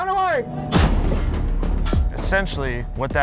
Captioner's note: cannon blasts